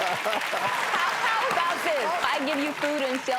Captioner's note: audience applauds and claps; laughs